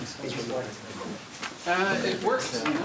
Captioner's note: background chatter